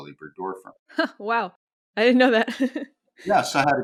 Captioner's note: chuckles